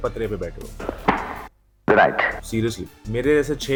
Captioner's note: smack